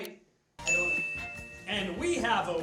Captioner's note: beep sound